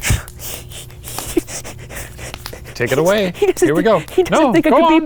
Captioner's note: panting